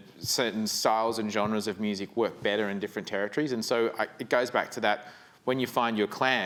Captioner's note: none